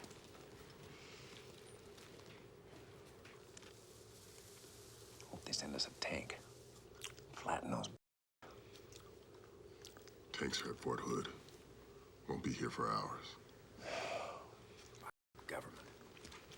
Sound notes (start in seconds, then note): 13.8 sighs